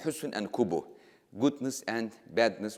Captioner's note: speaking in foreign language